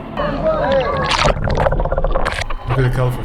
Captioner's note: sound of water splashing